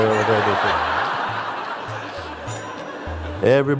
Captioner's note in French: rires